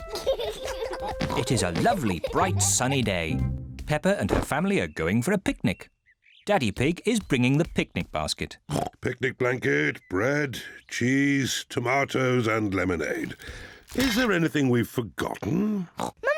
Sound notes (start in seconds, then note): 0.0 both giggle; 8.7 snorts; 16.2 snorts